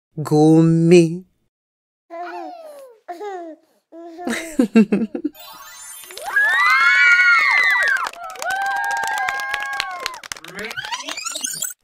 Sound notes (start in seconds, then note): 4.2 laughing; 5.6 cheering and clapping hands